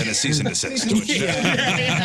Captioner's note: laughing